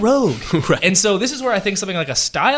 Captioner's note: laughs